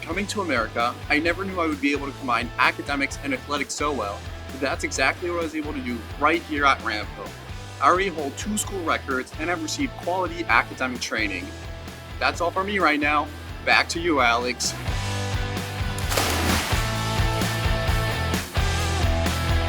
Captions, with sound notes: Coming to America I never knew I would be able to combine academics and athletics so well, but that's exactly what I was able to do right here at Ramapo. I already hold two school records and have received quality academic training. That's all for me right now. Back to you, Alex. (water splashing) (upbeat music)